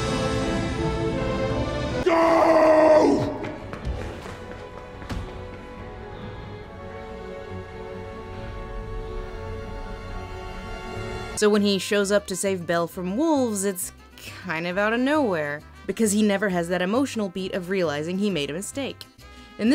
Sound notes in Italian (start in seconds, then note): 11.7 voce fuori campo